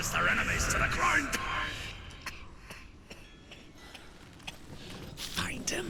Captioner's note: hacking coughs